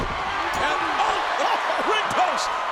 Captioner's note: head thuds